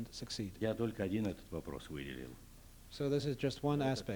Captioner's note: non-english speech